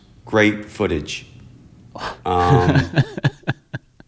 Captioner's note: laughter